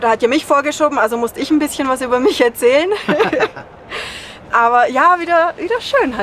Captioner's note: laughs